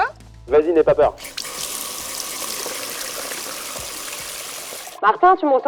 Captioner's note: water flow